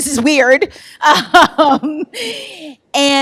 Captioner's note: laughs